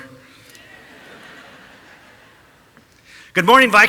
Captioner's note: audience laughing